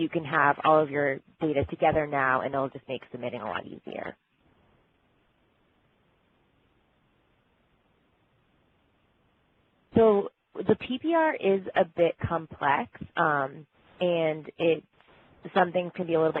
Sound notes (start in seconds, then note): 10.2 pause